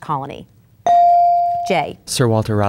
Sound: bell dinging

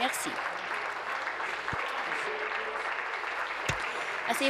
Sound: applause

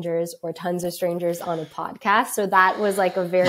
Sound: laughs

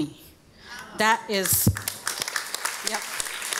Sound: audience applauding

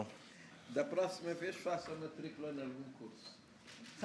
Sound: speaking portuguese

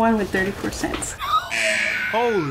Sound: squeakily; buzzer

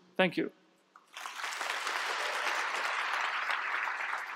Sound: applause

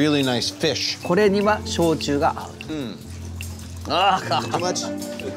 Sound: speaking in Japanese

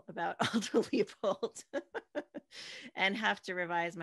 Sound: laughs

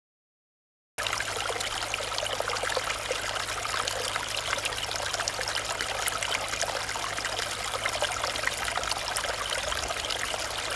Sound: sound of water

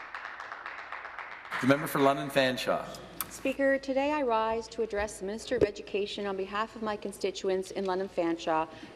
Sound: some Applause

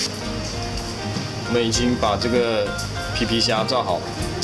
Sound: deep frying

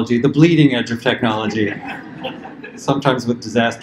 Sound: laughter

